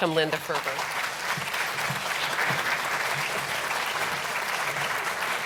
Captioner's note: audience applauding